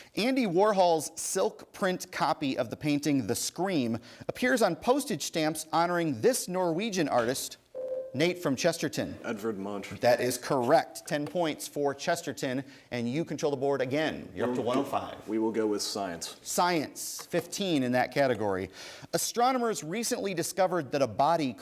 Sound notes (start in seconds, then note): 7.7 ding